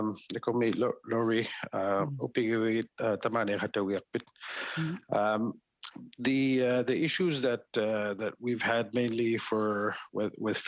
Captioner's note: speaking Indigenous Language